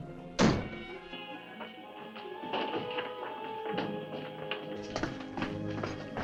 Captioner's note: dramatic music; door thudding